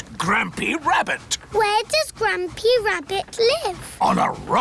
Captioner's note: none